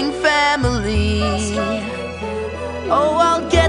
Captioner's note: Pebbles echo last words